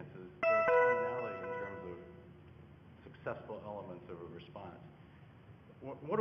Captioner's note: computer tone